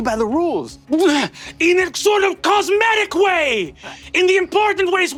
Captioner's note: grunts